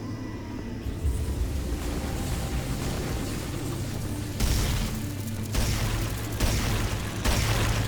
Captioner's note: suspenseful music; gunshots